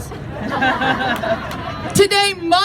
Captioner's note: crowd laughs